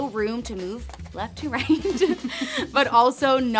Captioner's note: both laughing